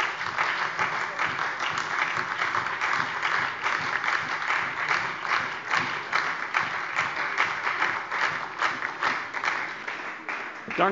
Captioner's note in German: Beifall SPD